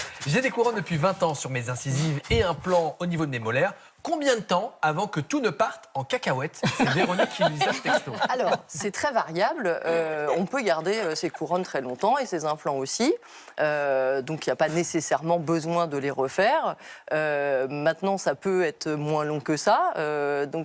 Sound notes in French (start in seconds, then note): 6.6 rires